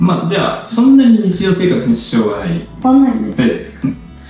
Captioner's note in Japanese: 咳払い